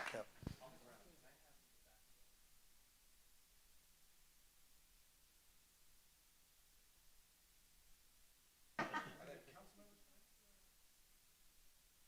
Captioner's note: applause